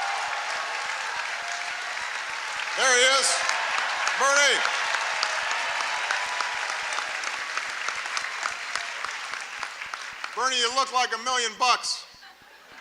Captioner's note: applause; laughter